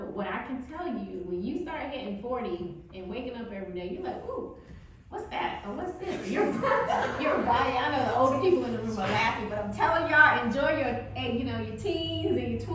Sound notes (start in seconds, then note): 6.1 audience laughing